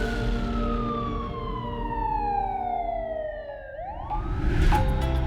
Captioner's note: siren wailing; soft ominous music; upbeat music